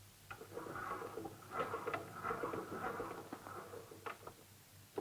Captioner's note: crank whirring